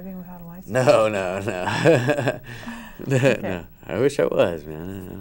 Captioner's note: laughs